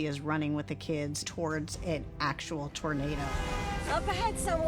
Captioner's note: horn honking